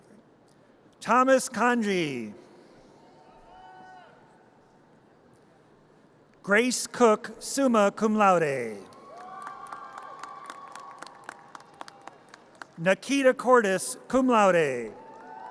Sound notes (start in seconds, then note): 2.9 audience cheers; 9.0 audience cheers; 15.0 audience cheers